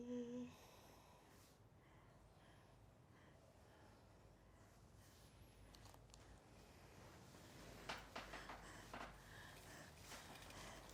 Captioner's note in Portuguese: respiração ofegante